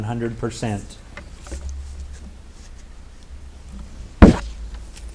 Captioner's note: light clattering